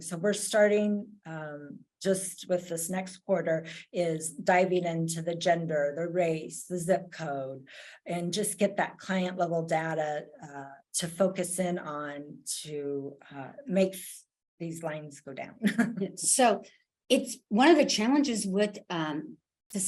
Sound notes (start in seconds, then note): 15.7 chuckles